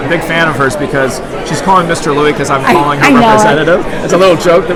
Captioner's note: laughs